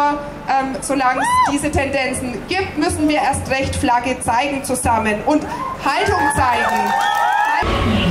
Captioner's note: cheers